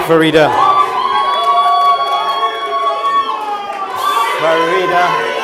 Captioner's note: audience cheers